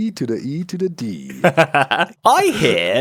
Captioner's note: laughs